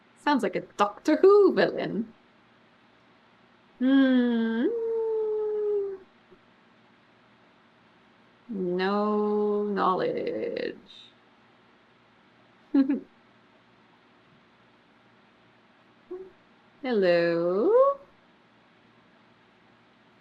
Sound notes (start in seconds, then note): 12.8 laughs